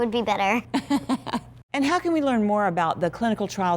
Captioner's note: laughter